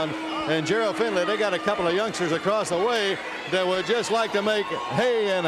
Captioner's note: bell ringing